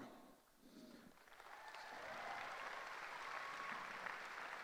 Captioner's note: applause